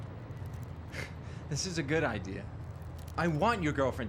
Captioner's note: chuckles